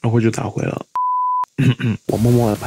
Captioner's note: cough cough